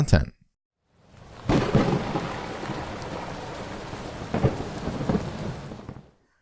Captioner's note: thunder